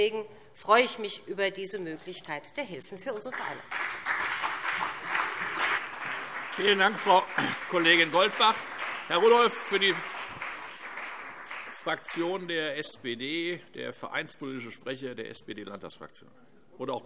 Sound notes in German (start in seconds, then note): 4.2 Beifall BÜNDNIS 90/DIE GRÜNEN und CDU